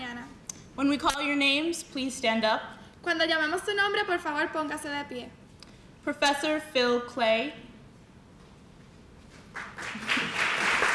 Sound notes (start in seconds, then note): 3.3 speaking in spanish; 9.5 applause